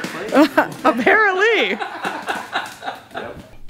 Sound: laughing

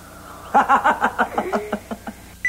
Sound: laughs

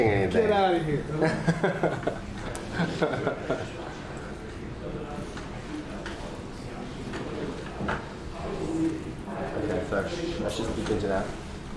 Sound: laughs

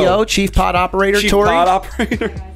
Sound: laughter

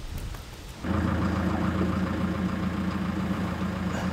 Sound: engine running

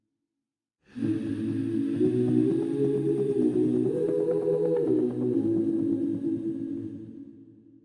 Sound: humming

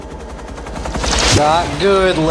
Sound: zap

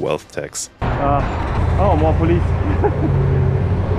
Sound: chuckles

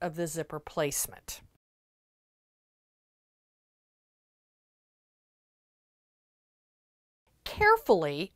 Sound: no Sound Present

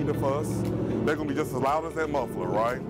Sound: car muffler roars

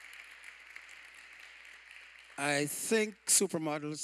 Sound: applause

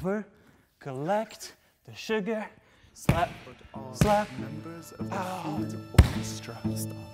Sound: breathe in

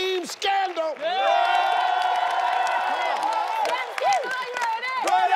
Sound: audience cheering

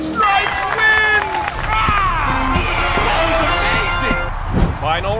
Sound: roars

